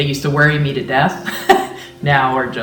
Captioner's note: chuckling